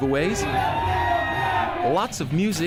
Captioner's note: cheering